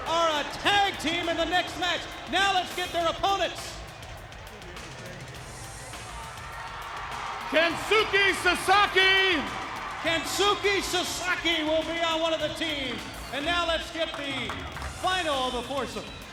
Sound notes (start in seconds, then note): 6.3 audience cheers